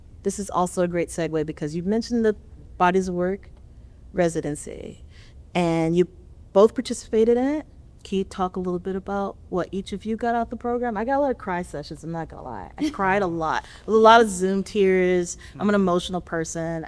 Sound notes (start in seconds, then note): 12.8 laughter